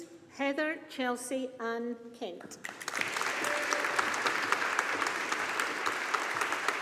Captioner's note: audience applauding